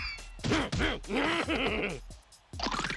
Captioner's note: ding; grunting